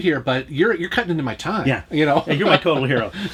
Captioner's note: laughs